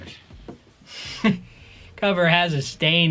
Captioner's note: laughs